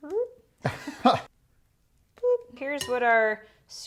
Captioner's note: laughing